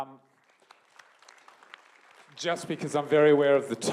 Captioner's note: applause